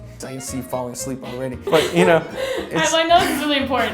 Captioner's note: laughing